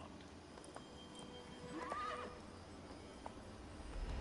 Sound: horse neighs

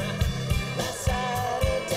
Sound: crowd chattering

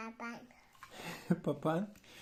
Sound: laughing

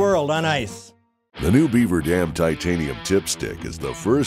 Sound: voiceover

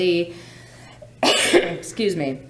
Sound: coughs

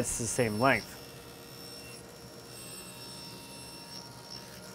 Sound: saw buzzing

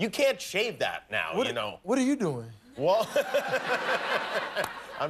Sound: laughter

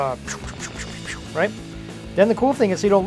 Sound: whisping air

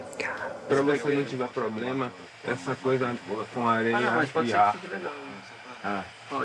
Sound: both speaking in foreign language

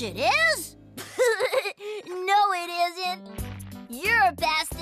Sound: laughs

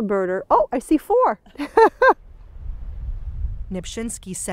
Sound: laughs

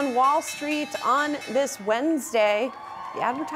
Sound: bell ringing

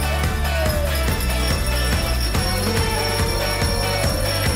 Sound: applause

